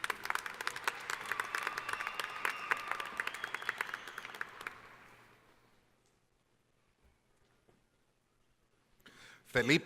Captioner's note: applause